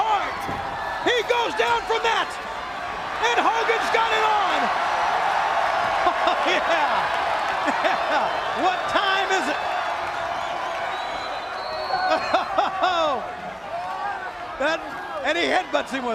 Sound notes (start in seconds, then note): 5.3 crowd cheering